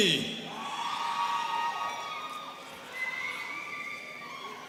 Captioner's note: students cheering